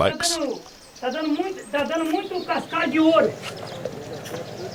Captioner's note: Portuguese spoken audio